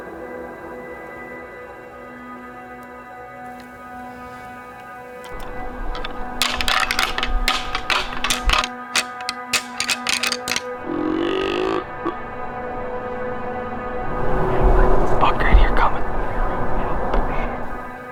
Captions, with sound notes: (antlers rattling) (deer call grunting) Buck right here coming.